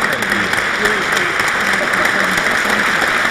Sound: applause

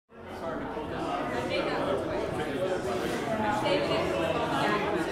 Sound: indistinct conversation

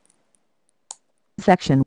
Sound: click

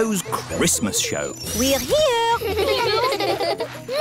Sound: children giggling

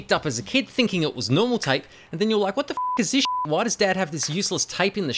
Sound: beep

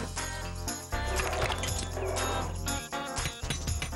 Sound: crunch!; hammer Tapping

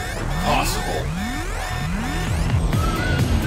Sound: alarm continues blaring

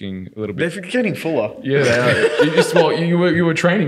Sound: laughing

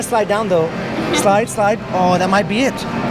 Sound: laughs

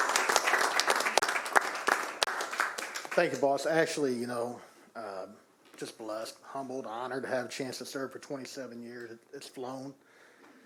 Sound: applause

